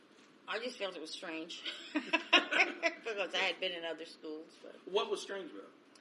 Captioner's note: laughs